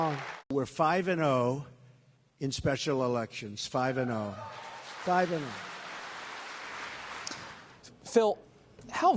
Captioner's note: cheers, applause; cheers, applause